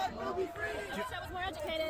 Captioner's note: chanters in the back